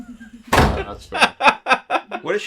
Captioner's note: laughing